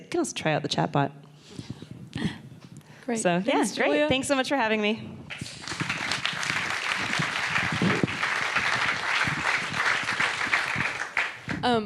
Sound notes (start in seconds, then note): 5.3 audience applauding